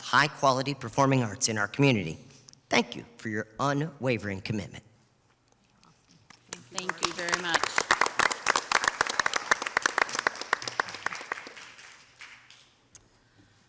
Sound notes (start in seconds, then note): 8.2 crowd applauding